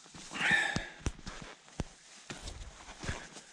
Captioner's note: sighs